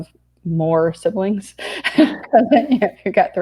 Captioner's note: laughing